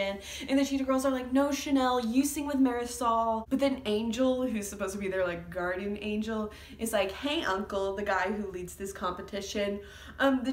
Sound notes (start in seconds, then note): none